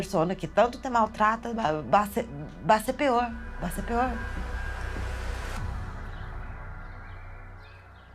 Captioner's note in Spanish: música de tensión; sonido de pájaros; música intensa